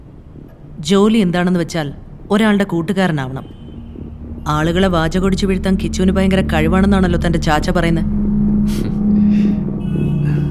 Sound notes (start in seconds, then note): 8.5 snickers